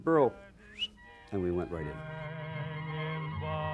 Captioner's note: whistles